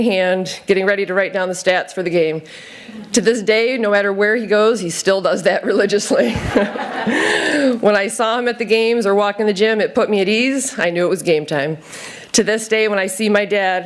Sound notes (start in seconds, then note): 6.2 laughter